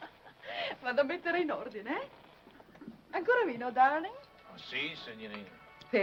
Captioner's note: woman laughing; speaking foreign language